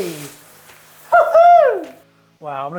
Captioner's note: laughs loudly